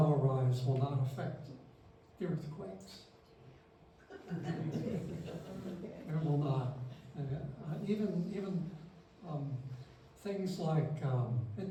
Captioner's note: laughter